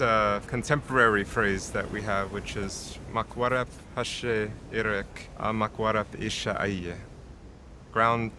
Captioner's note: speaks native language